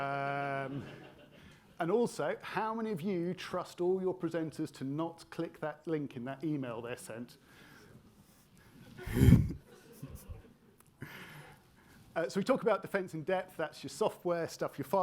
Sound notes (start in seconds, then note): 0.5 attendees laughing; 9.2 everybody laughing